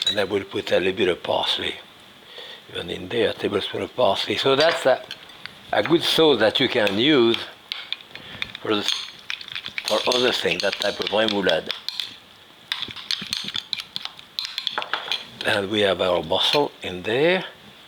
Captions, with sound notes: And I will put a little bit of parley even in there. A tablespoon of parley. So, that's a good sauce that you can use for other things, (spoon scraping) that type of remoulade. And we have our mussel in there.